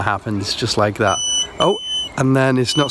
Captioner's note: beeping